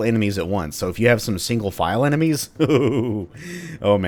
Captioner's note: eager chuckling